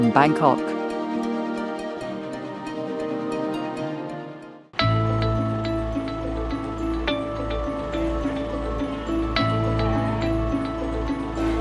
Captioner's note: sound of boat